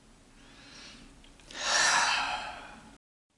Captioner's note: tired breath out